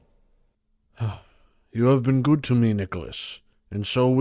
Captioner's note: sighs